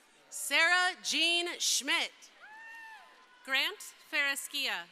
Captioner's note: crowd cheering